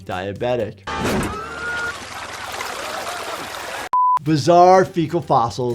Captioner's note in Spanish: líquido chapoteando